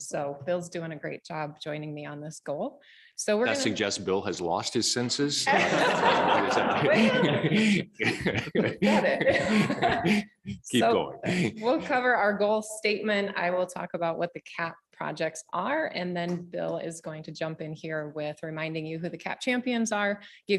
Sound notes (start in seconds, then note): 5.4 audience laughing